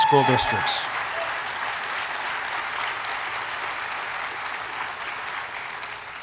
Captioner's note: audience applauding and cheering